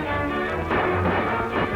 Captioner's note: gunshot